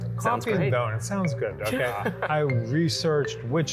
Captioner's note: laughs